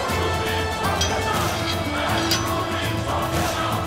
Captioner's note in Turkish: Hep bir ağızdan